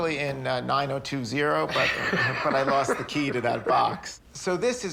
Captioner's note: laughs